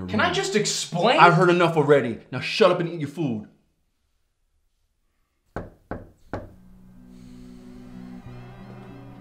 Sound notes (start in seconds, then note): 5.5 knocking on door